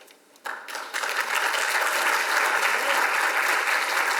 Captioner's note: audience applauds